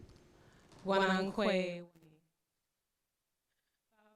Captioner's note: non-english speech